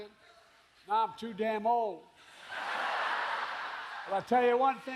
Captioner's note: laughter